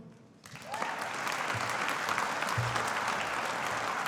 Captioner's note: audience applauding